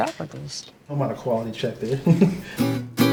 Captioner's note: laughs; jaunty guitar music